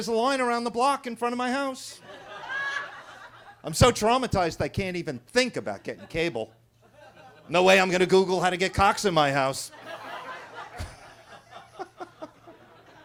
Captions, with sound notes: there's a line around the block in front of my house. (attendees laughing) I'm so traumatized, I can't even think about getting cable. (attendees laughing) No way I'm gonna Google how to get Cox in my house. (everybody laughing)